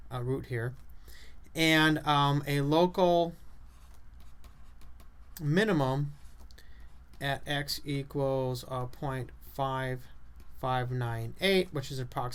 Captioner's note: writing on chalkboard